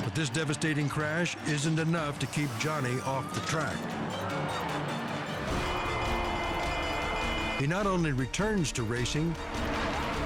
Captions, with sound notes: But this devastating crash isn't enough to keep Johnny off the track. (spectators gasp) (bell rings) He not only returns to racing,